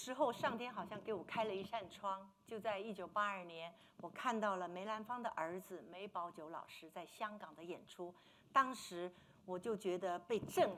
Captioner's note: speaking Mandarin